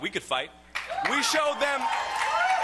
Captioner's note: cheering and applause